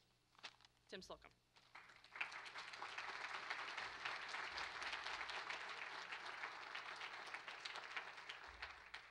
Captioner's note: applause